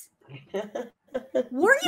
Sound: laughs

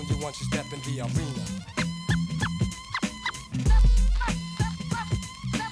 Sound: record scratching

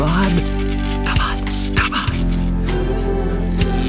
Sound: whispering

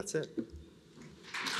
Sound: applause

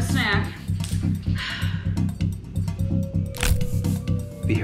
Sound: sigh; crack

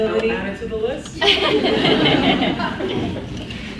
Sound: laughs

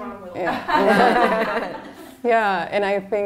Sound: laughter

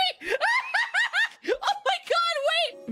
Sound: excited Laughter

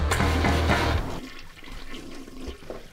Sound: toilet flushes

